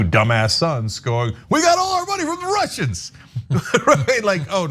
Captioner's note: laugh